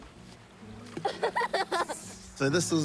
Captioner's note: laughs